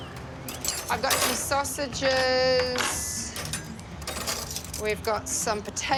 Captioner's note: silverware clatters